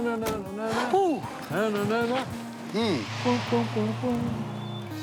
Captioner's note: humming; door opens